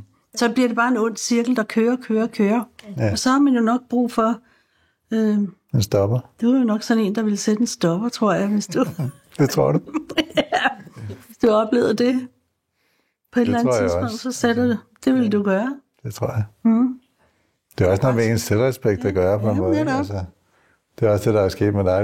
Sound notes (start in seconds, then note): 8.7 laughs; 8.8 chuckles